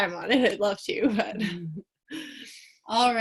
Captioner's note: both chuckle